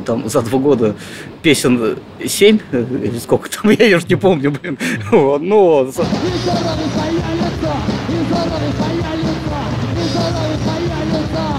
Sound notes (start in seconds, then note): 4.6 laughing